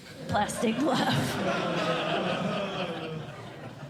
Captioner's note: laughter